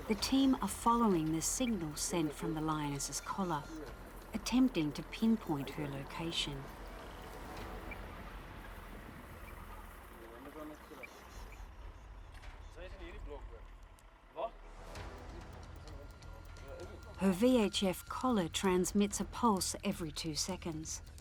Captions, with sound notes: the team are following the signal sent from the lioness's collar, attempting to pinpoint her location. (dramatic music) (speaking foreign language) Her VHF collar transmits a pulse every two seconds